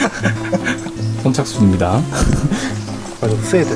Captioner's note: laughs